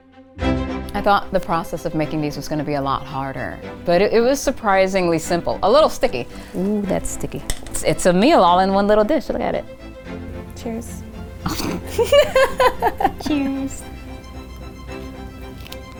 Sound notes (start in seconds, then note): 10.0 upbeat music; 11.4 both laughing; 14.3 upbeat music